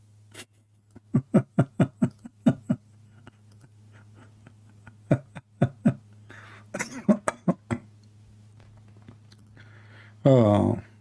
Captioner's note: Ketawa